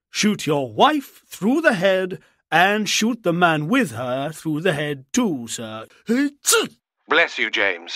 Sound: he sneezes

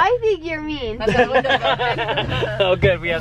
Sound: laughing

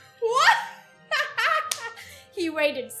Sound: laughs

